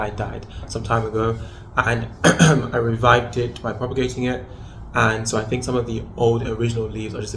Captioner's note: coughs